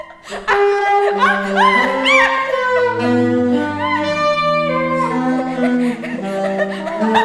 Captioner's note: hysterical laughter